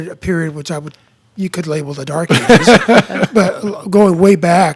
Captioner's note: laughing